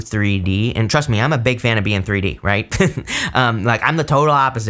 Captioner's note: laughs